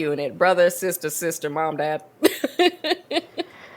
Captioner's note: laughs